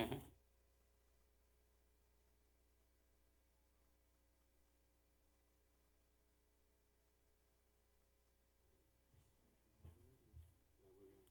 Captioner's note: laughter